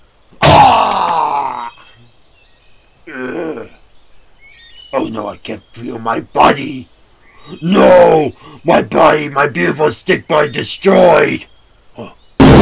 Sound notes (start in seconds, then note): 3.0 Bonestyx groaning